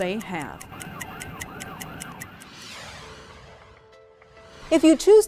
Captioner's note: clock ticking; police sirens blaring